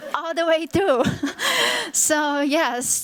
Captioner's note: chuckles